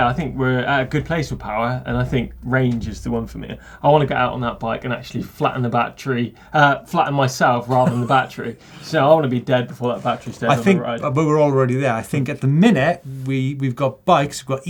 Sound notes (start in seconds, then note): 7.6 laughing